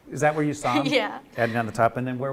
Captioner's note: laughs